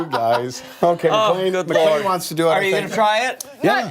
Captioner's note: laughter